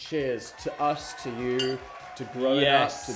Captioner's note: crowd cheering; glass clinking